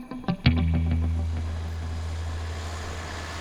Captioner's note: vehicles approaching